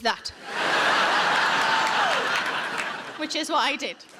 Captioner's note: audience laughing